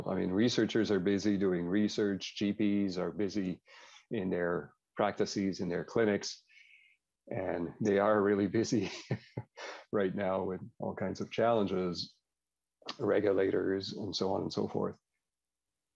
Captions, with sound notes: I mean, researchers are busy doing research, GPs are busy in their practises in their clinics. And they are really busy (laughs) right now with all kinds of challenges, regulators and so on and so forth.